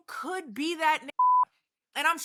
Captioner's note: beep